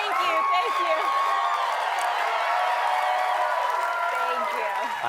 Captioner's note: cheers and applause